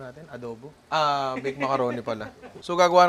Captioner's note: laughs